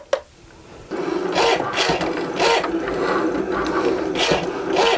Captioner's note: Cricut whirs